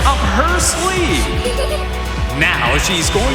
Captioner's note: giggling